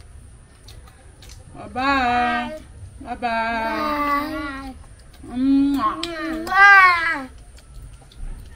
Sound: kisses

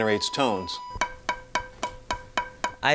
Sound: hollow knocking

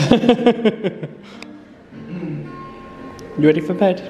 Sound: laughs

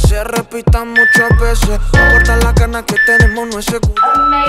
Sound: timer beeping

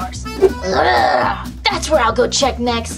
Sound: zombie Grunts

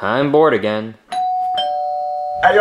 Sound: bell dings

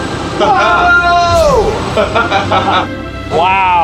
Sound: screaming and laughing

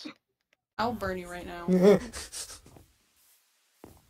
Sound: fearfully cries with a moderate pitch

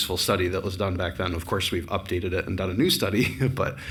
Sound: chuckles

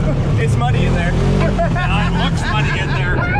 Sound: laughing

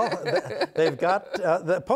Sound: laughter

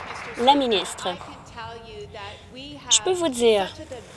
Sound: applause

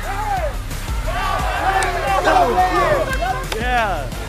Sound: cheering

